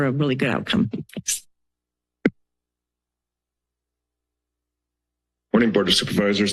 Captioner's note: silence